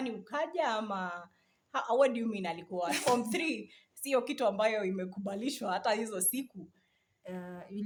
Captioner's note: laughs